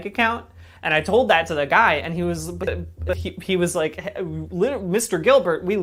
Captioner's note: glitching